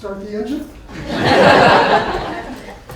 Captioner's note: laughter